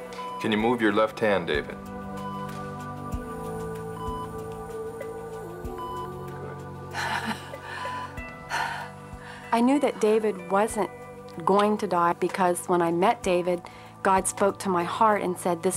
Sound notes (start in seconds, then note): 3.1 machines beeping; 6.9 gasping